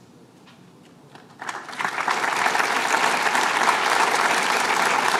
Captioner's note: applause